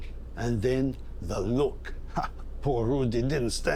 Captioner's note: laughs